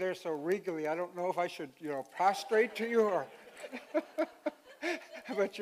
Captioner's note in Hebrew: צחוק